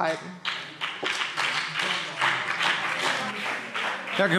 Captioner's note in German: Beifall BÜNDNIS 90/DIE GRÜNEN und CDU